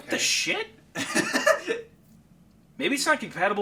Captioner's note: laughing